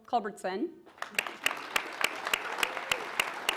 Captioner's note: applause